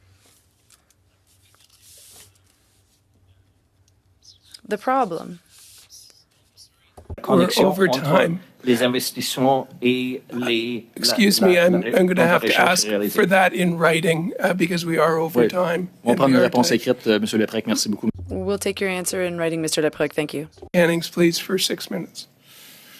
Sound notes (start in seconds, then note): 14.2 speaking French